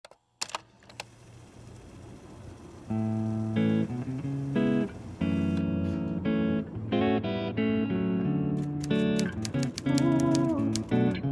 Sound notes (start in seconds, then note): 0.0 guitar strumming; 2.0 typewriter